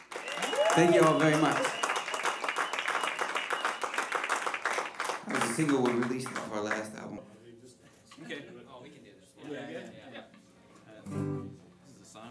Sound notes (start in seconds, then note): 0.0 applause; 7.3 background Chatter